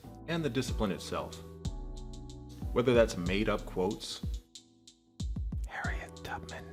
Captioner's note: whispering